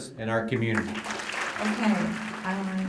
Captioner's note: applause